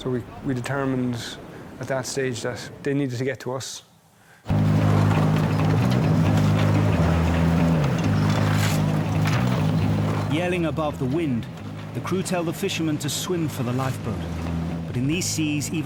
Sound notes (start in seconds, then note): 4.4 boat droning; 4.4 wind whooshing; 8.1 waves crashing